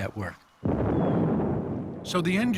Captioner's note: rocket igniting